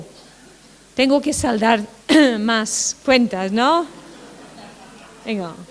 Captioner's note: laughter